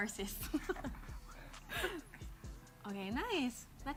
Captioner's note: chuckling